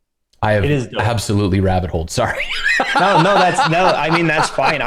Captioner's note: laughter